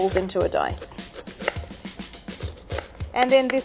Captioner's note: knife tapping against wooden board